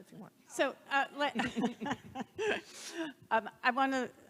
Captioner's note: laughing